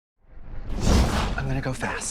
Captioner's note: whoosh